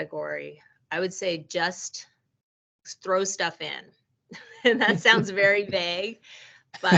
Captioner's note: chuckling